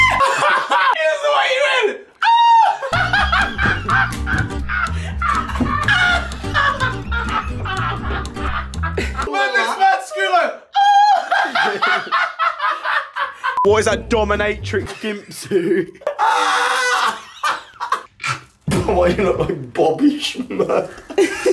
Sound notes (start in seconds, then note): 2.8 laughter; 10.7 imitates Jay's squeal; 14.8 yell laughing